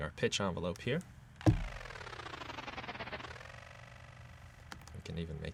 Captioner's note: electronic whirring